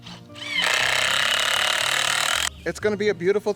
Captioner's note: buzzing